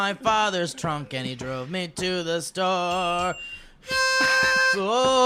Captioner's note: ding ding